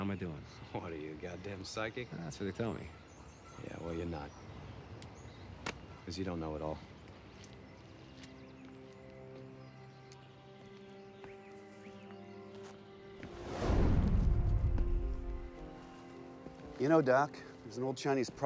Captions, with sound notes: What are you, a goddamn psychic? That's what they tell me. Yeah, well you're not. [Bird chirp] As you don't know it all. [Footstep] You know, doc, there's an old Chinese proverb